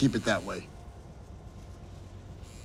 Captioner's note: phone buzzing